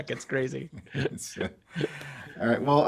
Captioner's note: laughs loudly